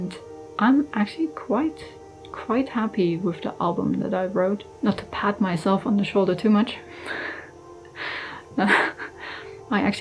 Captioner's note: laughs